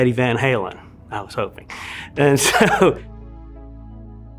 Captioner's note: laughs; soft upbeat music